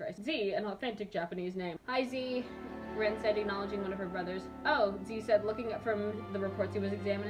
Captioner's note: none